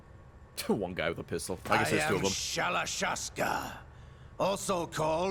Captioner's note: laughs